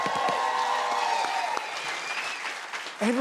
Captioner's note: cheers and applause